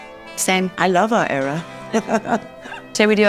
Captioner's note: laughs